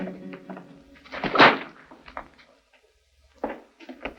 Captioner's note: bull whip sounds